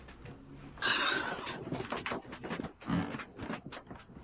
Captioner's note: crying